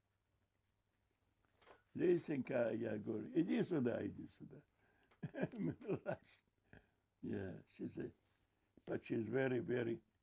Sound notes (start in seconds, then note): 5.2 laughing